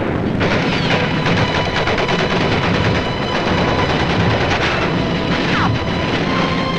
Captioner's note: dramatic music; guns firing